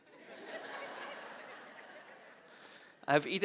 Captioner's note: audience laughing